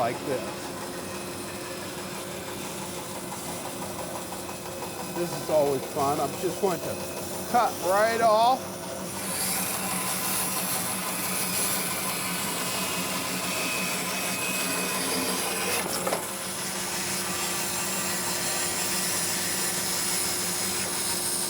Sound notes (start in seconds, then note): 0.1 machine vibrating; 8.9 saw blade whirring